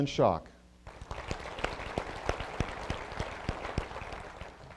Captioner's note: applause